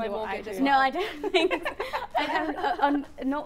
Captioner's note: laughs